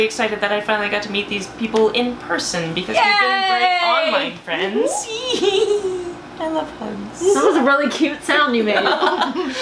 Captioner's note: giggles